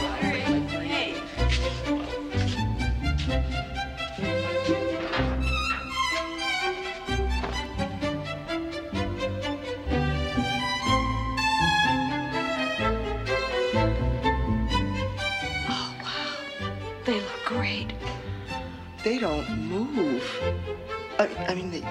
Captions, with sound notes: (locker clunking) - Oh, wow. They look great. - They don't move. I mean, they move but they don't jiggle.